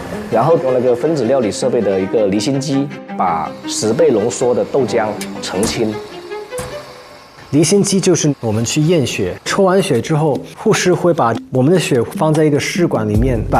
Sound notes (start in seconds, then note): 5.7 A centrifuge spins at high speed